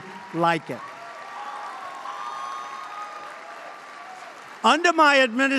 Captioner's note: applause